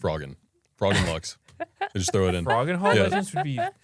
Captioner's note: laughs